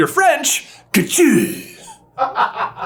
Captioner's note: interesting French accent; laughing in the background